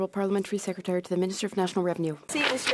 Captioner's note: speaking French